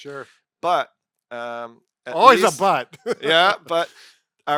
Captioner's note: chuckles